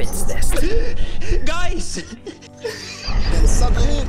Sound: frantic breathing

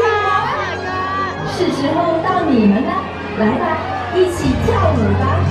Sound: announcer speaking in Mandarin

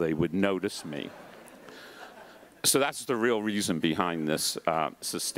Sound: laugh

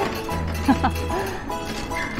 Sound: laughs

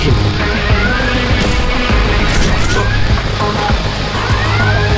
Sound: shots firing

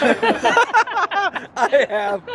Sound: laughing

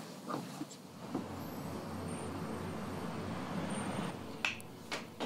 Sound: traffic hums; gentle electronic music

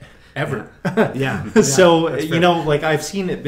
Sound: laughing

